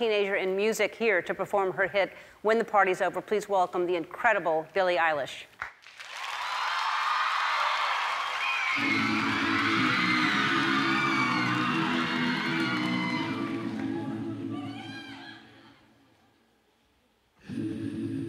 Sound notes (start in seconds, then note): 5.6 applause